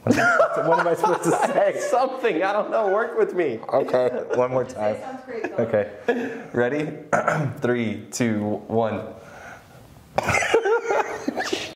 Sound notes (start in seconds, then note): 0.0 laughs; 7.1 clears throat; 10.2 laugh